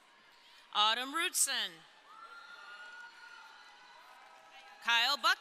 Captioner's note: crowd cheering